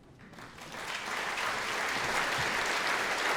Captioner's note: applause